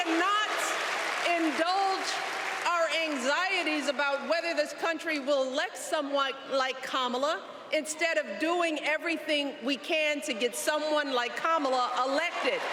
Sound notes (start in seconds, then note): 5.1 cheers and applause